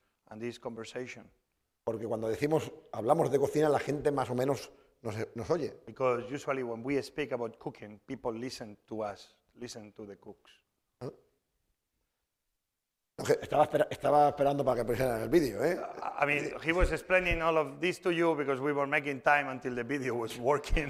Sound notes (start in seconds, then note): 2.6 speaking spanish; 14.6 speaking spanish